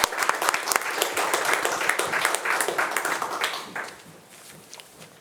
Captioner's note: attendees applauding